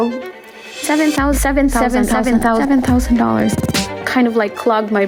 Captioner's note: echoing